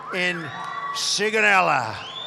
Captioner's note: applause